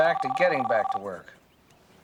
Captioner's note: on phone